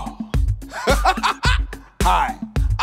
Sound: laughing

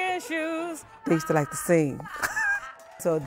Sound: laughs

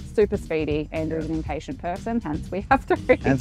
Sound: laughs

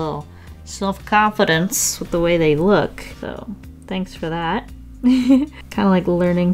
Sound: laughs happily

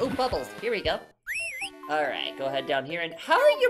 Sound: Jinjo: *whistles

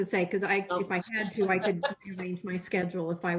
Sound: laughter

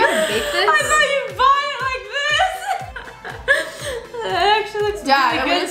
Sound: laughs

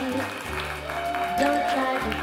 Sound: applause

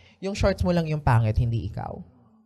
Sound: none

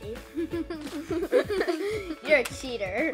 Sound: laughing

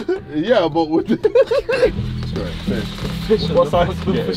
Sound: laughs

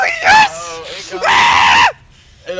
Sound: screeching

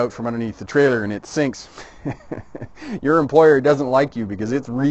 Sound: chuckling

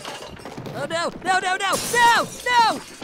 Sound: rumbling

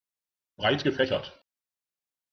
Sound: fast Pronunciation

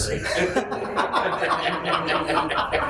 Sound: laughter

